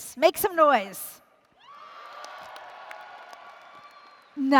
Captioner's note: applause & Cheering